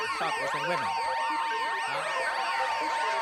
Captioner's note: alarm wailing